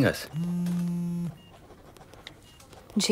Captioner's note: Phone vibrating